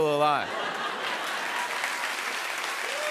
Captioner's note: laughter; cheers and applause